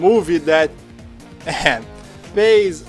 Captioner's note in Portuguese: ahem